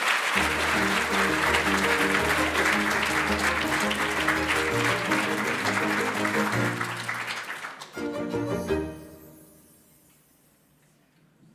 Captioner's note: applause